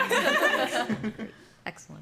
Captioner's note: laughter